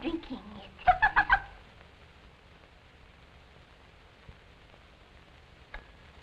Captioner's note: shrill laughter